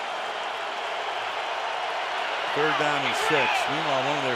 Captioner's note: cheering